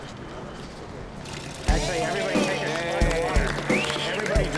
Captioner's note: cheering